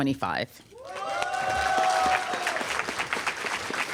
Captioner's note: applause